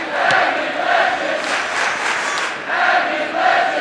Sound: clapping

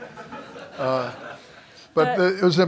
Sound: laughter

